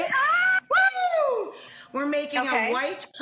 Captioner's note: both cheer